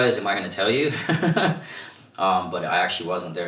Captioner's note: laughs